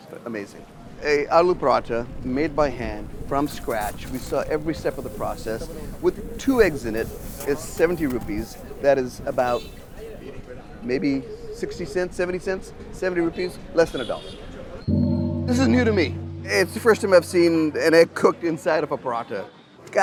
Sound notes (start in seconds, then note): 14.8 audio gongs